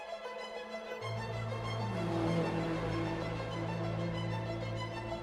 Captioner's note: car engines roaring